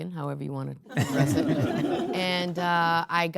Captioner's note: audience laughing